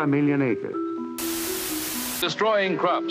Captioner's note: static hissing